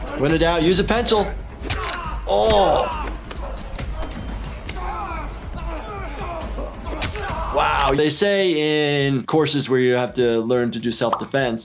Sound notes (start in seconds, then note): 1.5 blows thudding; 2.1 person groaning; 3.7 blows thudding; 4.8 person groaning